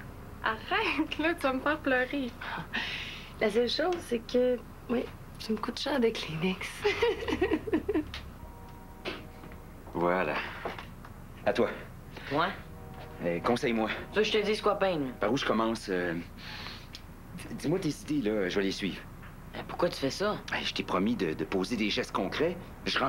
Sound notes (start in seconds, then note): 6.8 Rires